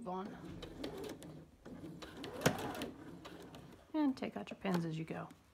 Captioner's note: sewing machine running